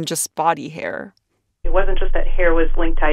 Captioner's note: soundbite of archived recording